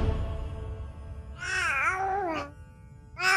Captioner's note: crying